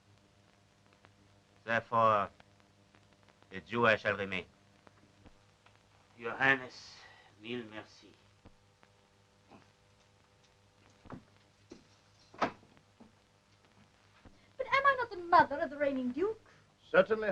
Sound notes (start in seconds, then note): 11.7 floor pattering; 12.2 door open